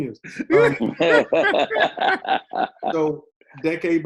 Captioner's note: all laughing